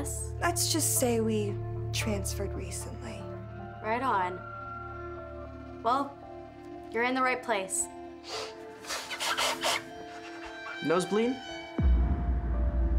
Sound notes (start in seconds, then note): 8.2 sniffles